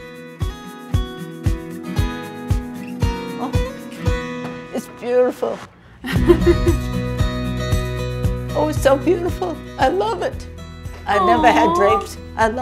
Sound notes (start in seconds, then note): 0.1 upbeat music continues; 6.0 chuckles; 6.1 upbeat music continues